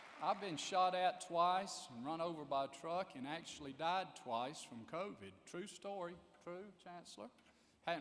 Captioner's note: applause